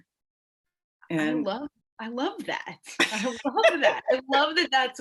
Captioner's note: laughs